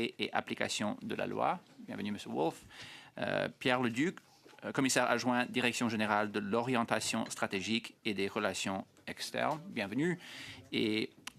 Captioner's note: speaking French